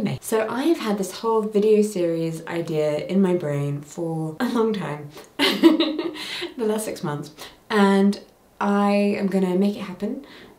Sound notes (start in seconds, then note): 5.3 laughing